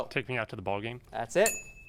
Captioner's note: ding sound